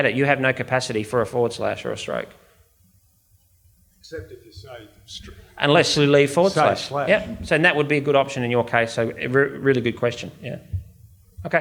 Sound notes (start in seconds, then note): 5.1 audience member murmurs